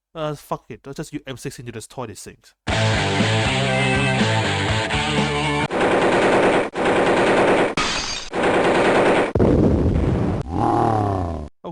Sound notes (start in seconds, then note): 5.6 ratatatatatata! ratatattat!; 7.8 window breaks; 8.3 ratatatatatt!; 9.3 boom.mp3; 10.4 angry grown